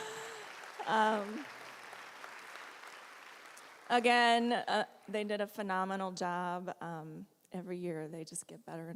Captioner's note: applause